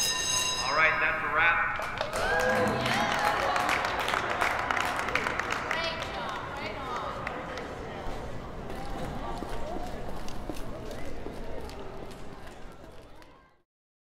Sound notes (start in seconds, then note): 1.8 crew cheering and applauding